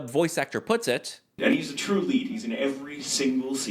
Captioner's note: talking